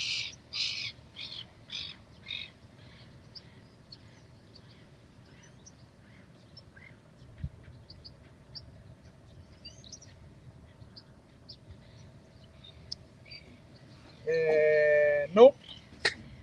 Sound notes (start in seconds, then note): 0.2 birds chirping; 16.2 laughter